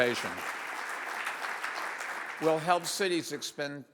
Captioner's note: audience applauds